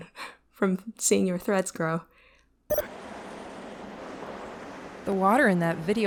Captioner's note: SFX: Video-loading noise